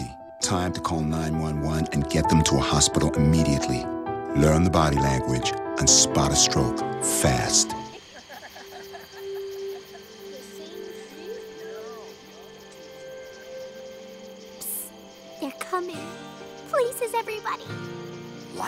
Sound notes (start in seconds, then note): 7.9 laughter